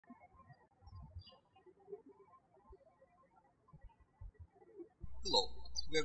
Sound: birds chirping

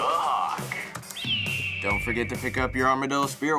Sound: hawk crowing

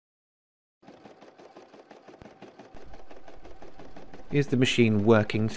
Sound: silence

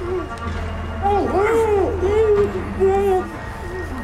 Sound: muffled screaming

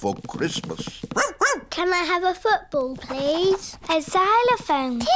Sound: barks

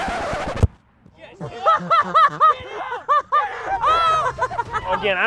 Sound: laughter

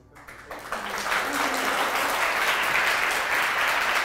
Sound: applause

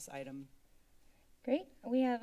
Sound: silence

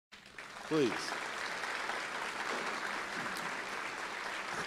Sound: applause

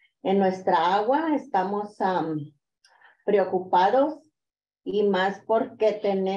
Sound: continues speaking in Spanish

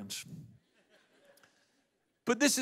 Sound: audience laughs

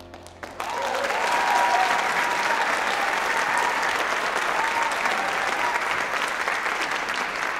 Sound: applause, cheering; applause

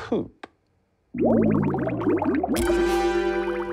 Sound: bubbly liquid sound

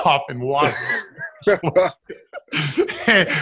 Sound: laughs

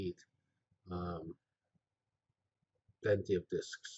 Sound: pause

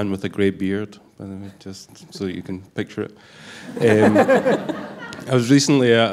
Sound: laughter

